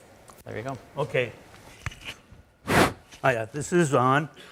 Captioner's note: blows into the mic